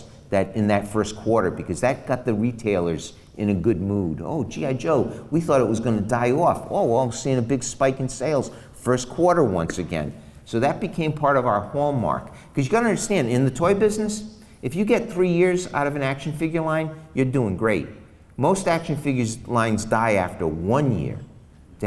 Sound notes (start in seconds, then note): none